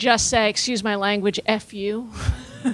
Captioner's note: laughing